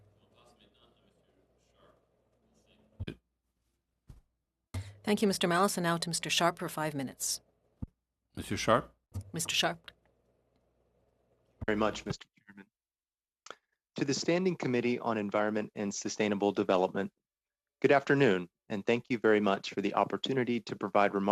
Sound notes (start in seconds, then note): 9.8 speaking French